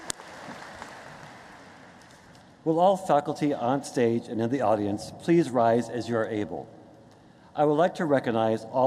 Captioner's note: applause